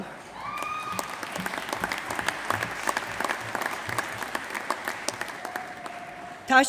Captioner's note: applause